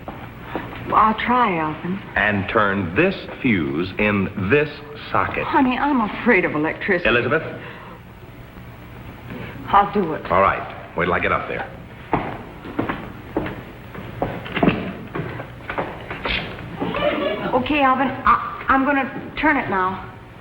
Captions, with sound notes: - I'll try, Alvin. - And turn this fuse in this socket. - Honey, I'm afraid of electricity. - Elizabeth? - I'll do it. - All right. Wait till I get up there. (footsteps receding) - Okay. Alvin, I'm going to turn it now.